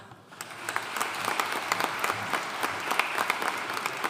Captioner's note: audience applauding